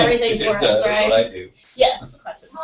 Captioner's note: laugh